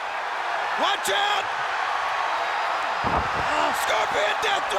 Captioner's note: audience cheers